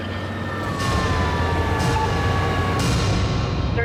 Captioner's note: siren wailing